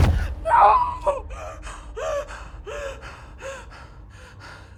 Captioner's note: crying